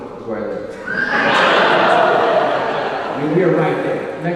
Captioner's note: audience laughing